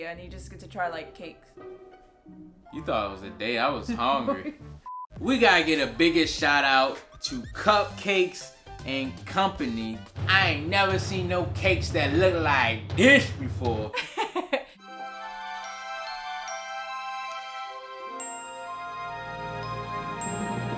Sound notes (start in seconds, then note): 13.9 laughs; 14.8 upbeat romantic music